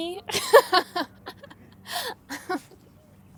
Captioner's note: laughing